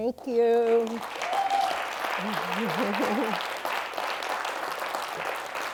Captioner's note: cheers and applause